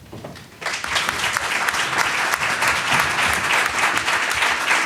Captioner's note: audience clapping